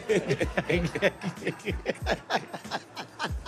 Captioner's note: laughter